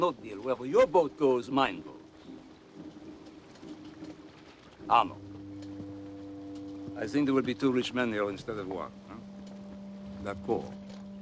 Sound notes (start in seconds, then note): none